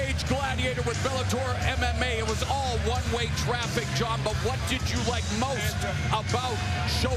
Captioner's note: cheers and applause